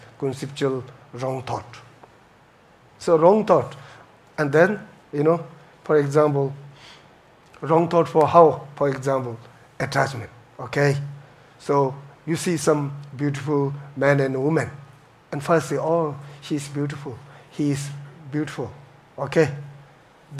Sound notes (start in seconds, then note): none